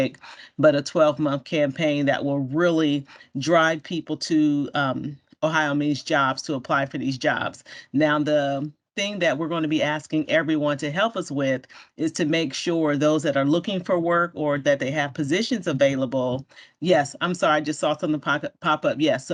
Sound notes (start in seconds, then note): none